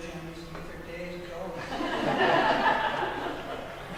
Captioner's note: audience laughter